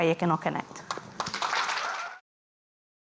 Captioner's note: applause